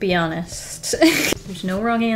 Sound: laughs

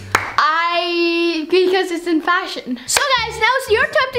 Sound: claps

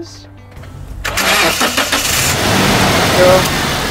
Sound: engine starts up normally

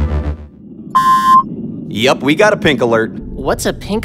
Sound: beeping

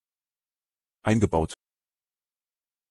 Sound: fast Pronunciation

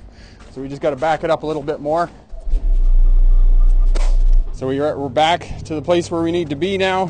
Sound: truck backing

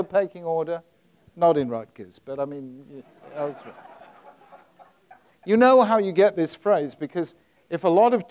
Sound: audience laughs

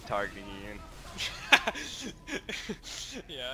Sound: chuckles

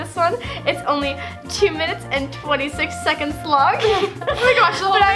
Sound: laughs

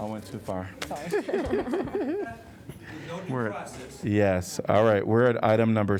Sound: laughter

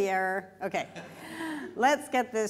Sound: laughter

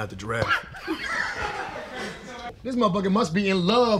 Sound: both laughing

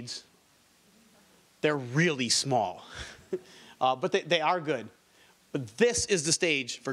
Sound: chuckles

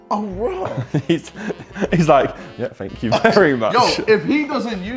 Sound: laughs

